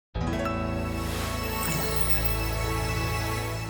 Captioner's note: logo whooshing